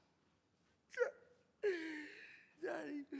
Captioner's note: cries